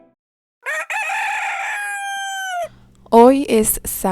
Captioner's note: roosters Singing